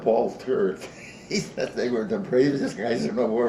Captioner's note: chuckles